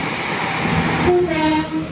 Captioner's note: horn sound